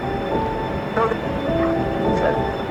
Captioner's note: television bug sound